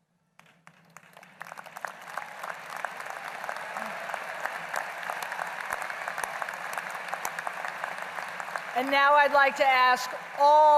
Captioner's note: applause